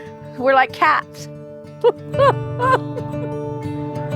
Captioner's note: laughs